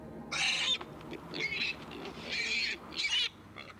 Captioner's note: piglet grunting